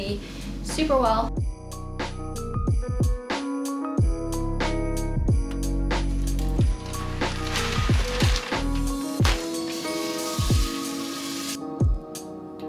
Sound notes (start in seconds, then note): 2.2 upbeat music; 7.9 paper rustling